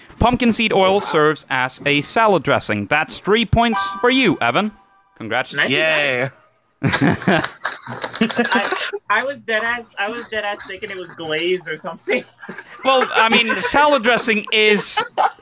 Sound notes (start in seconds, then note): 6.8 laugh; 14.5 group laughing